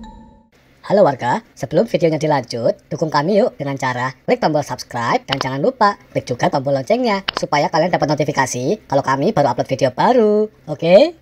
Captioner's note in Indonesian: Lonceng